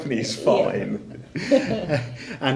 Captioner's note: laughing